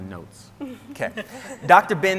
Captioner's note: scientists laughing